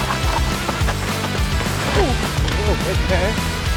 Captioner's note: bike tires rustling; upbeat music